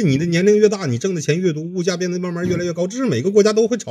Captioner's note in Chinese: 泣不成声